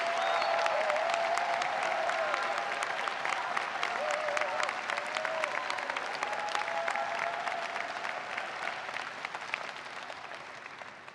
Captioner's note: applause